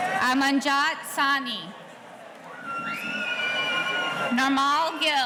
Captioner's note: audience cheering